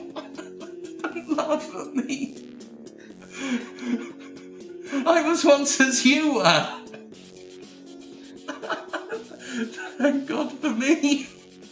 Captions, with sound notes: (continues laughing) And laugh at me. (gasps for breath) I was once as you were! (laughs more) Thank God for me!